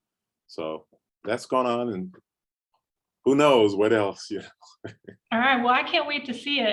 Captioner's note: chuckles